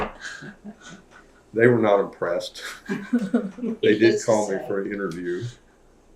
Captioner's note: laughter